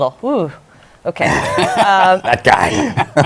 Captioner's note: laughter